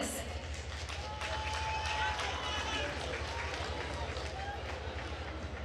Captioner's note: attendees applauding